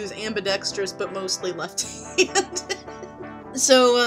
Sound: laughing again at self

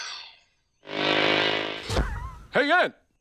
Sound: buzzing

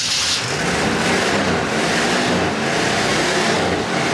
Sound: engine starts

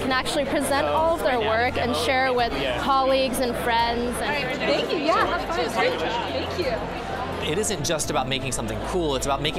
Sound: chatter

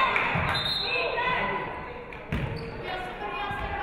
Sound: referee whistles

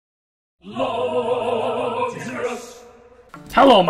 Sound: voiceover

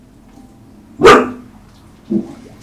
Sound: bark

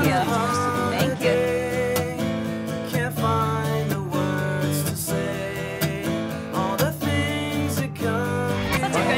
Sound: Kids continues to chant Spider-Man

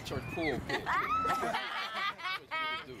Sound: all laugh

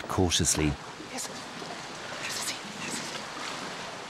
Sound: whispering

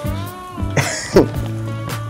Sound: laughs

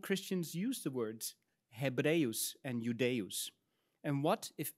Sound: speaks in Latin

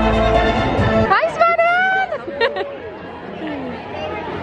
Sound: laughing

